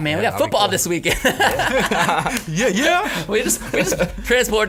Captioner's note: all laughing